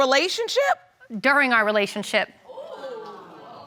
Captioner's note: audience gasps